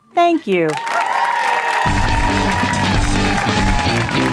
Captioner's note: audience cheers